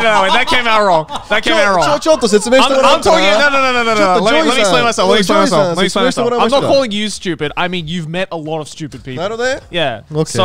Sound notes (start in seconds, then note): 1.6 speaking in foreign language